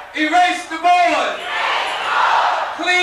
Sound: crowd

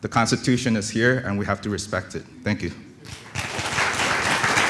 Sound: applause

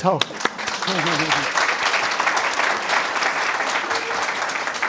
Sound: audience applauding

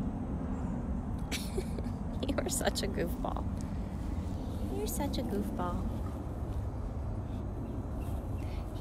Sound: laughter

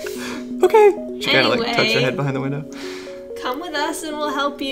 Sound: timidly

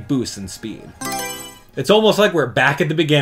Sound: Mario Selection Sound

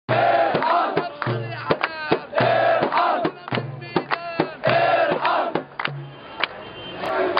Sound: chants

